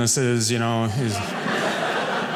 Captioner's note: audience laughing